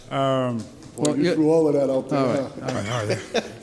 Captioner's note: speaks quietly